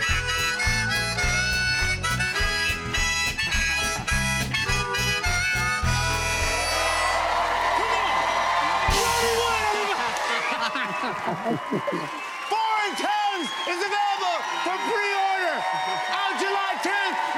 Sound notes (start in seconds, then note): 9.5 both laugh